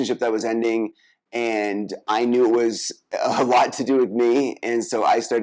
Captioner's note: laughs